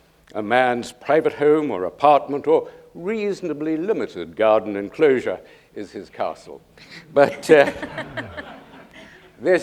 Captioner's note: laughter